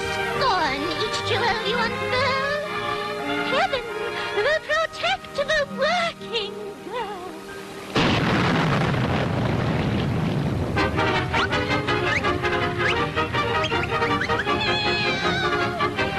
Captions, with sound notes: - I scorn each jewel, you foe. Heaven will protect the working girl! (thunder rumbling) (dramatic music) Help!